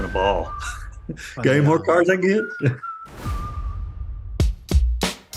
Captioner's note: chuckles